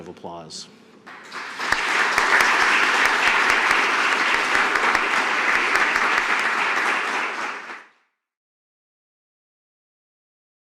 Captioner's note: applause